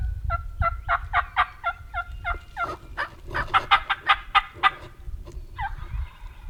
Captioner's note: hunters and turkeys continue to call to each other